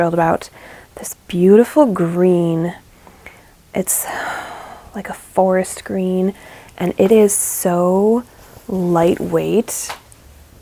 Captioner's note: sigh